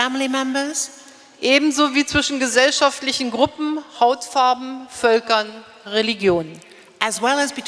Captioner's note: speaking in German